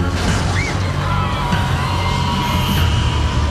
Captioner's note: crowd screaming